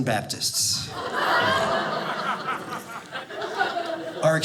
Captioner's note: audience laughing